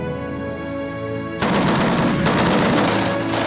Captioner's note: gunfire